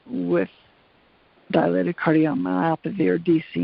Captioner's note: none